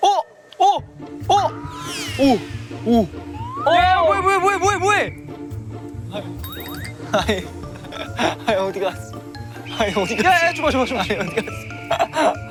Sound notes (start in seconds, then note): 5.1 In a somewhat WOONHAK-like tone